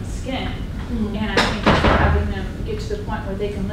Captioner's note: door close